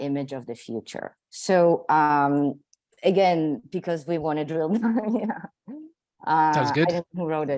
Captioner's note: laughs